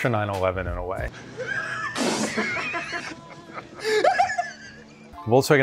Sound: hysterical laughing

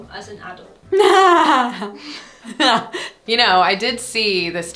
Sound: laughs nervously

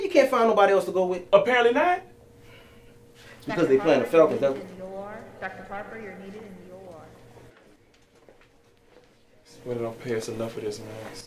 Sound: intercom

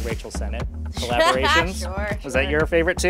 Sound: laughs

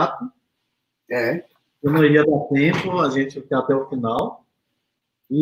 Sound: speaks portuguese

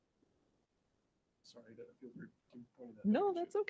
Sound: speaks faintly

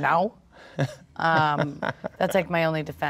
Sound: laughs

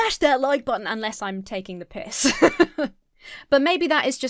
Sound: laughs

